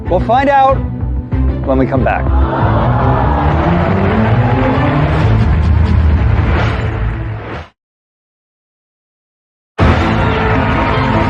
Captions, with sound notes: We'll find out when we come back. (CONTESTANTS GROAN) -(CHEERING AND APPLAUSE) -(DRAMATIC MUSIC)